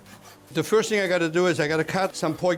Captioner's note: slicing noises